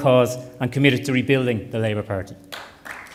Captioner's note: applause